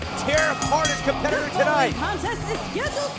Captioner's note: bell rings